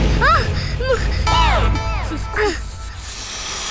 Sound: gasps

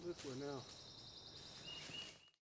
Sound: birds chirping

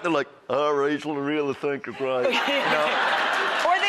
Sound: southern accent; audience laughing

